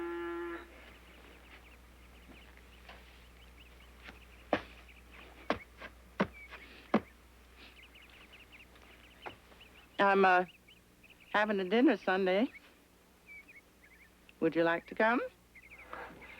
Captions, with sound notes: (foot thudding) I'm havin' a dinner Sunday. Would you like to come?